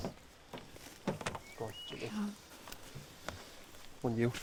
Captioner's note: door clicking